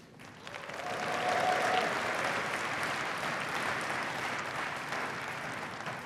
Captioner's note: cheering and applause